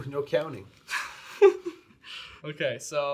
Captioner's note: laughs